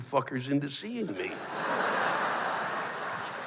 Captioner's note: laughter